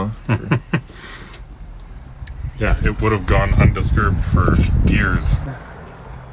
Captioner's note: laughing